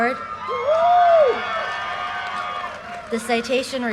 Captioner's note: audience cheers and applause